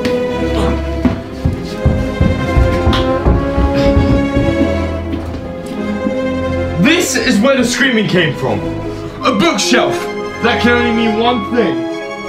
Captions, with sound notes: (footsteps clomping) - This is where the screaming came from. A bookshelf! That can only mean one thing.